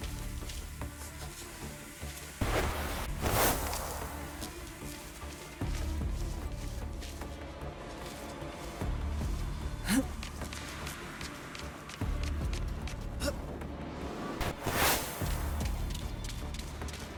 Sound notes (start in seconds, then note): 1.3 dramatic music; 9.8 gasping; 11.5 dramatic music